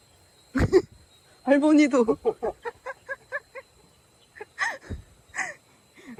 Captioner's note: laughs